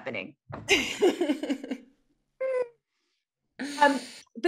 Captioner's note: both laughs